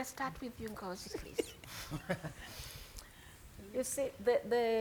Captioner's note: panelists chuckling